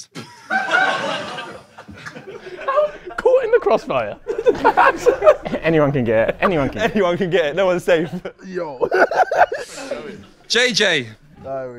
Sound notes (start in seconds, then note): 0.2 audience laughs; 5.4 audience laughs; 8.8 Sidemen laugh